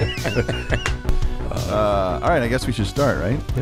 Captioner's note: everyone laughs